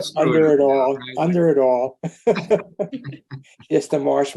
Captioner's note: group laughing